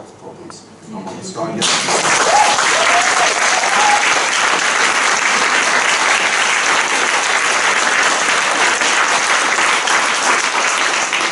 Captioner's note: applause